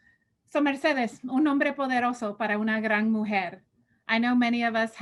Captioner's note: spanish